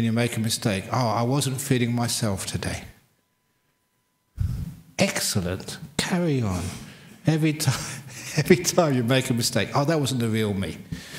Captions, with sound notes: make a mistake, "oh I wasn't feeling myself today"? Excellent. Carry on. Every time [laughs] you make a mistake, "oh that wasn't the real me."